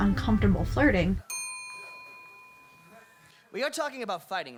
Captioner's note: elevator bell